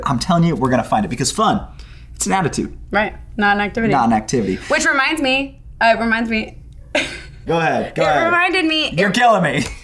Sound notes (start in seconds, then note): 6.9 laughing